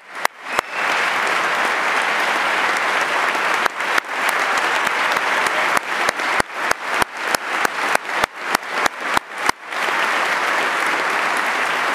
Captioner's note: applause